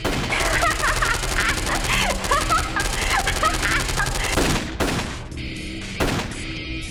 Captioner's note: rapid gunfire; unsettling laughter